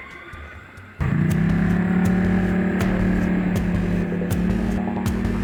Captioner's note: motor whirring